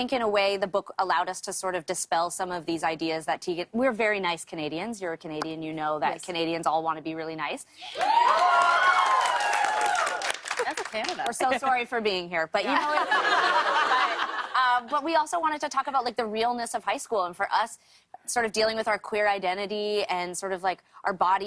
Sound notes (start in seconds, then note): 7.8 cheers and applause; 12.6 laughter